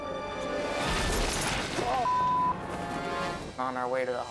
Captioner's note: body slams; beep